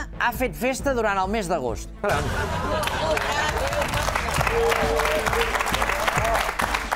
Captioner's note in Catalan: aplaudiments